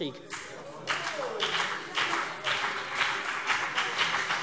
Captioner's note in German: Beifall CDU und BÜNDNIS 90/DIE GRÜNEN